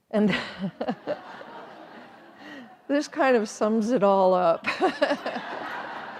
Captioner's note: laughing; all laughing